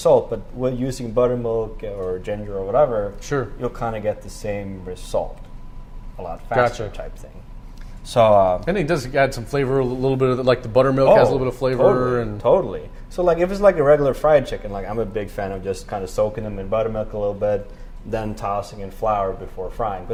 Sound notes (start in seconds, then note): none